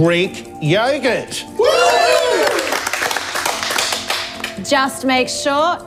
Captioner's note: everyone cheers and claps